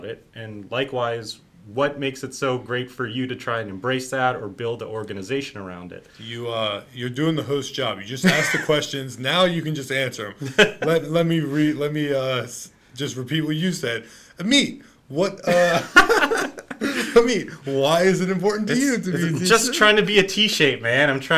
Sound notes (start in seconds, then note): 10.4 laughs; 15.4 both laughs